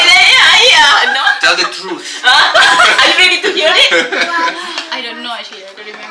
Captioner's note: laugh